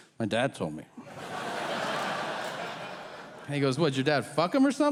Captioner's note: audience laughing